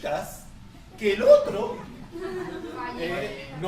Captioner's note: laughter